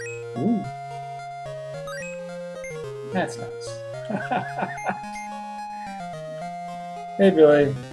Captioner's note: chuckles; chuckles